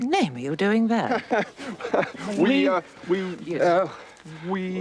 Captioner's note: laughs nervously